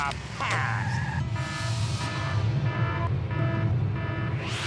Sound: beeping

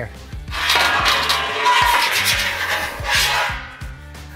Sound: tray scrapes

